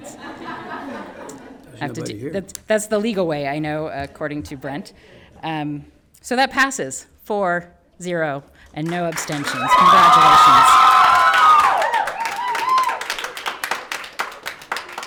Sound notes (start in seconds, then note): 0.0 people laughing; 8.8 everyone applauds